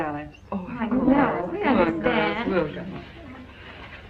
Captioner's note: murmurs of approval